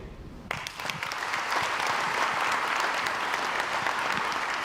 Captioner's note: crowd applauds